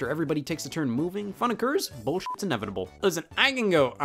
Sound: beep

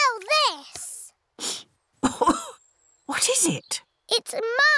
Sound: sniffs and coughs

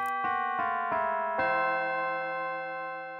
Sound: church bells

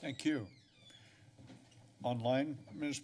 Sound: pause

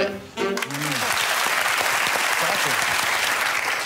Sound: applause

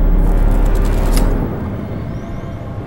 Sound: necklace breaks

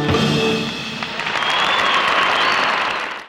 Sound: audience cheering

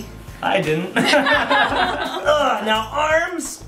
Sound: laughing

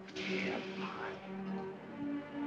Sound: mutters

